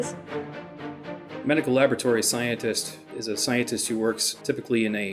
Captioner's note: voice-over